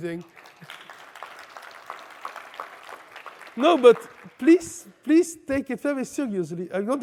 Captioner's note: cheering; applause